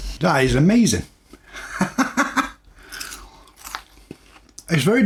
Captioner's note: laughs